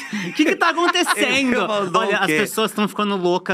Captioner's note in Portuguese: risos